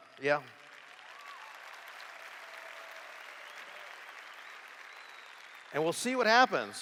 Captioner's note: applause